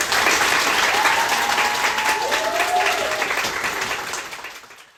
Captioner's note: applause